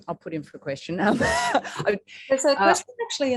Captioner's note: chuckles